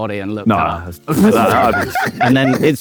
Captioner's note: group laughing